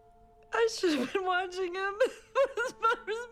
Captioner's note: crying